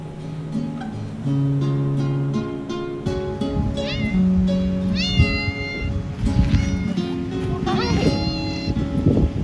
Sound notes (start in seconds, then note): 4.8 cat meowing